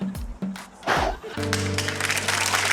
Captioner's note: whistle blows; blows; applause